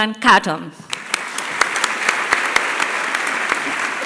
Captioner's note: applause